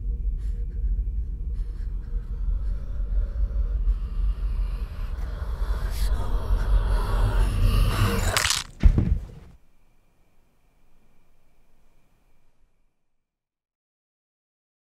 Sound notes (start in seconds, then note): 2.1 whispering; 8.3 neck Snaps; 8.6 body Falls